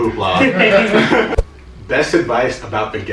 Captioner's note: laughter